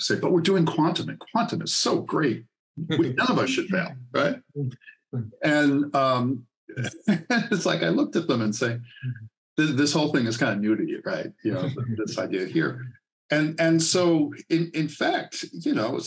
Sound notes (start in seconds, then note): 6.8 laughs